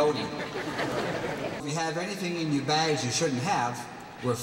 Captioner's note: laughter